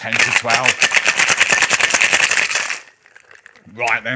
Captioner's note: ice clinking loudly